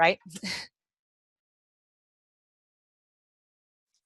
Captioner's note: chuckles